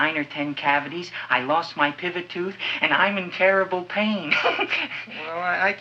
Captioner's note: chuckles